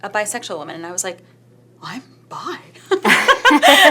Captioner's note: laughs